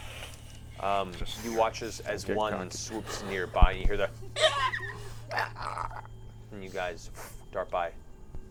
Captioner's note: shrieking